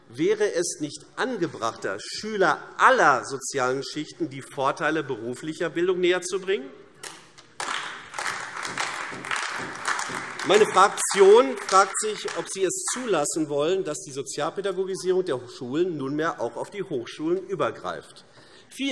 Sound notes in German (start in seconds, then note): 7.5 Beifall AfD